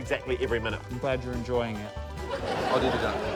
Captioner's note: laughter